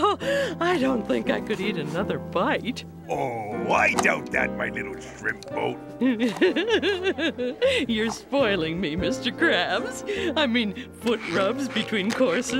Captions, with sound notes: I don't think I could eat another bite. Oh, I doubt that, my little shrimp boat. [giggling] You're spoiling me, Mr. Krabs. I mean, foot rubs between courses,